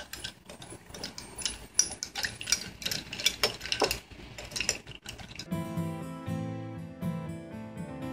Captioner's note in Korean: 스픈으로 돌리는 소리